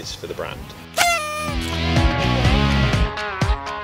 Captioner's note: horn blows